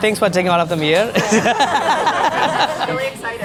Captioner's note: everyone laughs